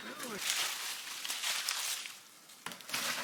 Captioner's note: rustling sounds